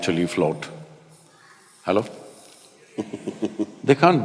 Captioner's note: Matthew laughs